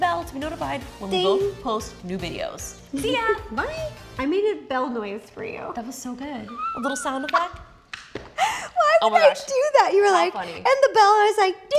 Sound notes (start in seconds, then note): 8.3 laughs